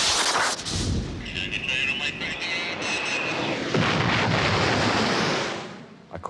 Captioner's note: pilot chattering over radio